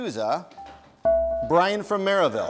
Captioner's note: bell rings